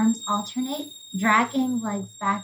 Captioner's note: high-pitched whistling intensifies